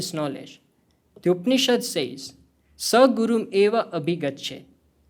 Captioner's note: speaking hindi